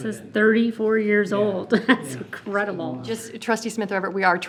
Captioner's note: chuckles